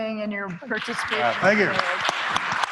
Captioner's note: applause